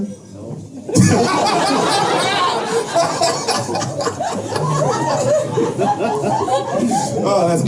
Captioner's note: laughter